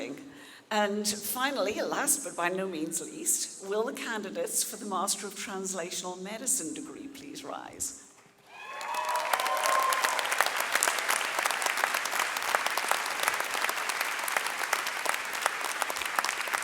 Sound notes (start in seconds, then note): 8.4 audience cheering and clapping